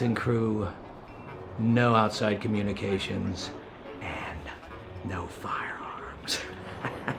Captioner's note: chuckles